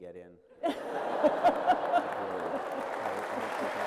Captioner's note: laughter; applause